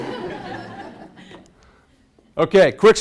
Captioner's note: class laughs